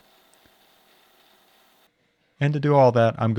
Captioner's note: mill whirring